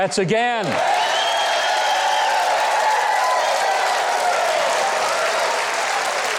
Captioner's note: audience clapping, whistling, and cheering